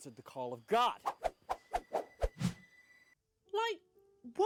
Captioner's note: cheesy sound effects